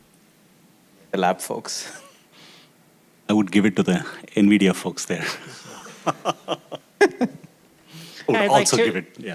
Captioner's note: laughs